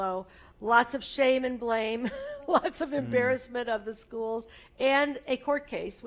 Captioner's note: laugh